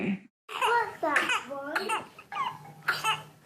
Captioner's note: coughs